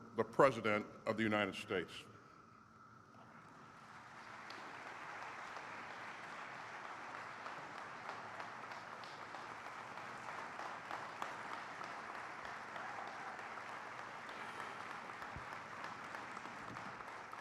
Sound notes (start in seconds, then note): 3.2 applause